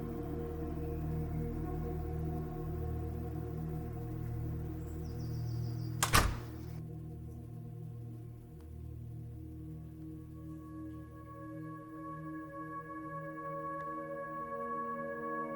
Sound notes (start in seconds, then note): 5.9 door slams; 12.2 gentle ominous music